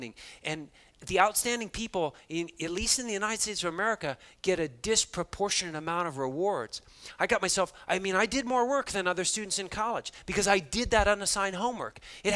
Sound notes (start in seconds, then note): none